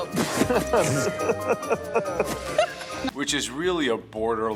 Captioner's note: Gordan spits; Joe and Graham laugh